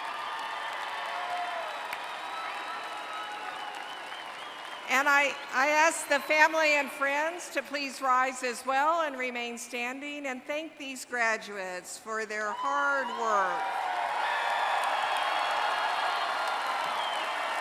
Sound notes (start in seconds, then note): 5.7 applause